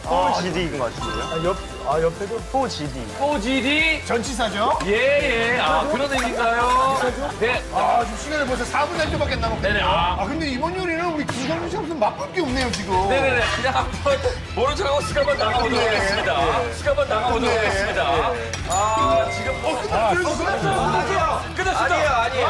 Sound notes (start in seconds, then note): 18.6 end bell rings?